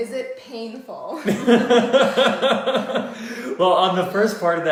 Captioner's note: laughter